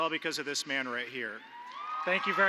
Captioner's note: applause